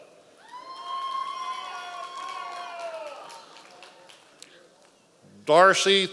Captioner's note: members of the audience cheering